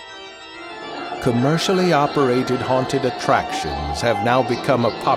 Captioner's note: screaming